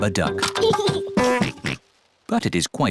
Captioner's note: giggles and oinks